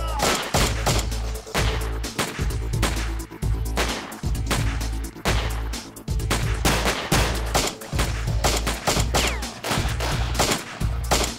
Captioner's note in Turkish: si̇lah sesleri̇